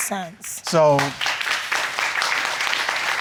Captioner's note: audience applauding